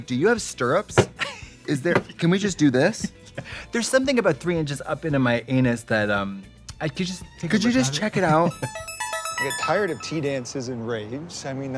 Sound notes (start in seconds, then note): 3.2 laughing; 8.5 musical flourish